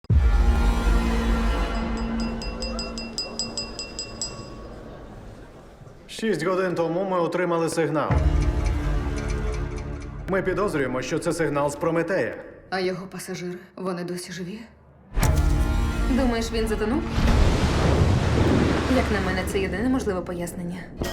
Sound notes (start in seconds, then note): 0.1 ominous music plays; 1.6 glass clinking; 15.8 woman in French; 17.0 thunder crashes